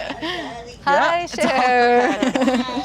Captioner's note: everyone laughing